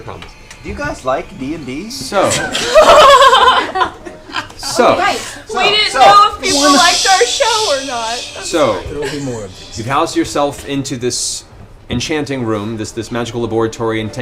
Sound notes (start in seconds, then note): 8.9 laughs